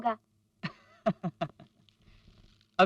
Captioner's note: laughs